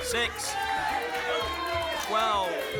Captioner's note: audience shouting numbers